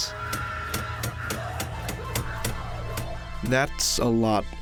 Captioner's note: boards slapping